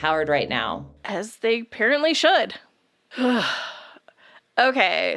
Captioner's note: sighs